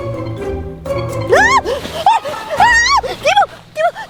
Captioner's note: screams